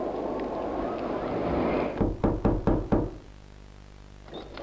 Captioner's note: knocking